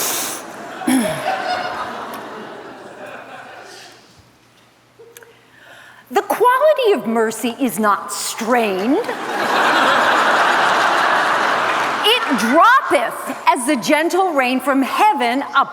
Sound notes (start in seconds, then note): 0.8 clears throat